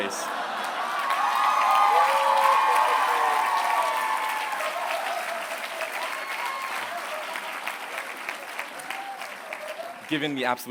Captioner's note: applause